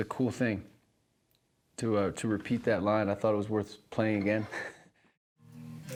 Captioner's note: chuckles